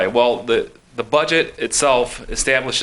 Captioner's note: none